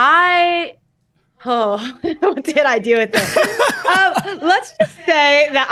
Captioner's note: laughs